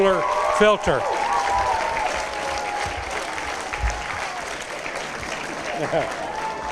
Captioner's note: applause, cheers